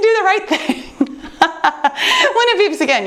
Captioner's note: laughing